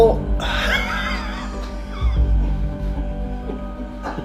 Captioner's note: laughing